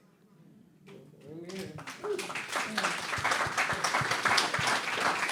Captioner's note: applause